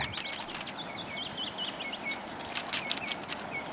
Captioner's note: birds singing